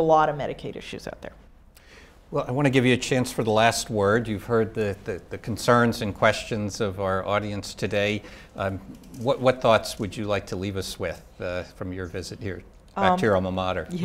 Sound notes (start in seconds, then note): none